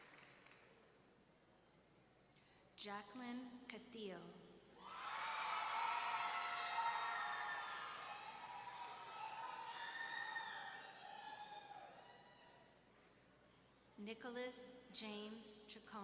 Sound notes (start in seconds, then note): 4.8 audience members cheering